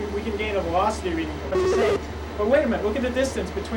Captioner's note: buzzing/beeping